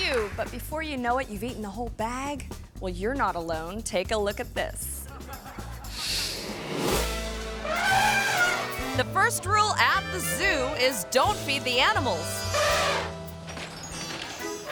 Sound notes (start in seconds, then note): 5.1 audience laughing; 5.9 air whooshes; 7.5 elephant trumpeting; 7.6 playful music; 11.9 elephant trumpeting